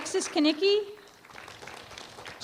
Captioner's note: applause